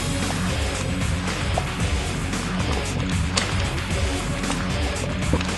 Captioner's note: gurgle gurgle; bubble, gurgle